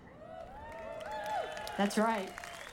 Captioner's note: audience applauding